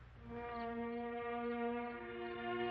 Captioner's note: crickets chirping